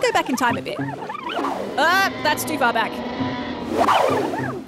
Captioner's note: dinosaurs roar